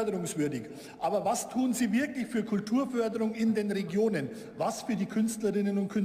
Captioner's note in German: none